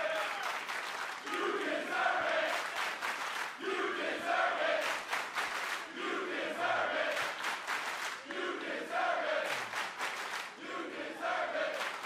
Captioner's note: cheers and applause; fans chanting